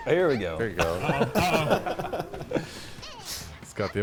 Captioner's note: players laughing